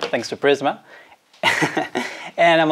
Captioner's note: laughs